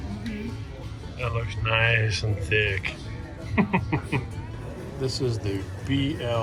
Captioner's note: chuckles